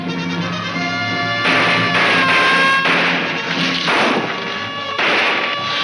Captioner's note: siren blaring; guns firing